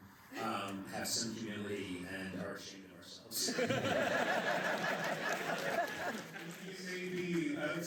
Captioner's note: laughter